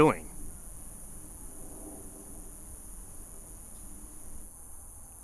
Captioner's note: insects chirping